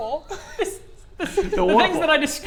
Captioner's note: squeaks